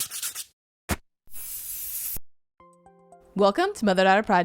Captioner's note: pencil scratching